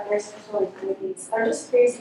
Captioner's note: speaking faintly